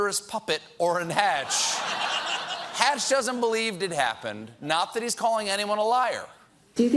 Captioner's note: laughter